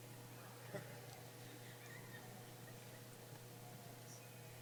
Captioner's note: laughs